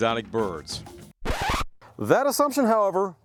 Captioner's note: record Scratching Noise